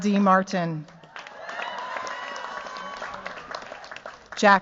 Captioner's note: cheers, applause